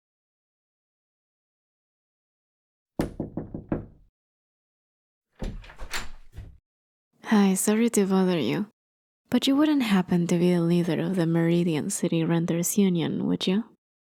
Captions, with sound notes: [knocking] [door opens] Hi, sorry to bother you, but you wouldn't happen to be the leader of the Meridian City Renters Union, would you?